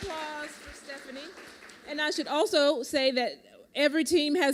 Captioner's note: applause